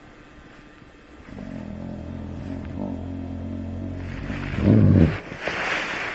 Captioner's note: growling